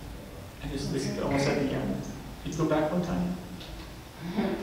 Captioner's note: speaks away from mic